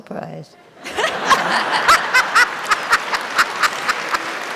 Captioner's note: audience laughing; audience applauding